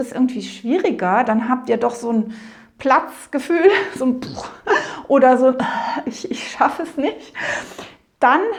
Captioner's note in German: Keuch